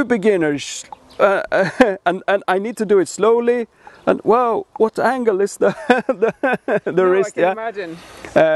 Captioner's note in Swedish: skrattar